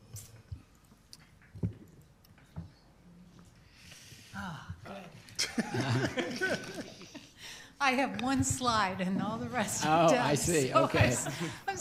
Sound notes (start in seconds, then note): 5.3 laughs